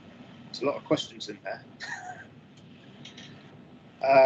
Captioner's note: laughs